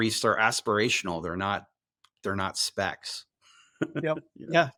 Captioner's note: chuckles